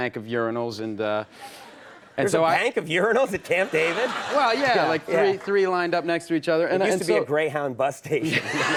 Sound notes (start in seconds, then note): 3.3 audience laughs